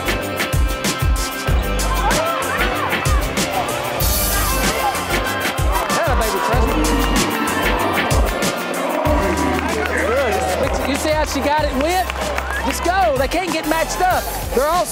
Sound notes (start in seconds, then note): 2.2 cheering